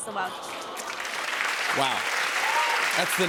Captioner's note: applause